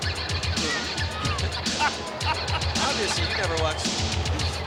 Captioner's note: laughs